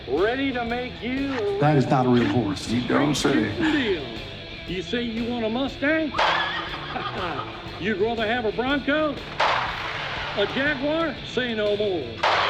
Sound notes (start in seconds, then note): 6.1 gun fires; 6.2 horse neighing; 9.3 gun fires; 12.2 gun fires